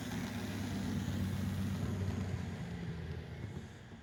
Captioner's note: engine loudly passes before slowing to a stop